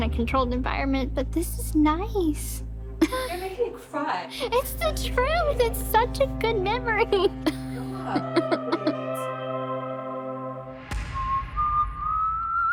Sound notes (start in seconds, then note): 3.0 chuckles; 9.3 laughs